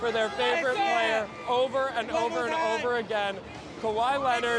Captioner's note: cheers